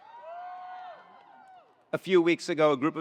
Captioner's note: attendees cheering